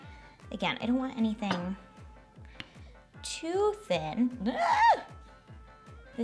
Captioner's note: yells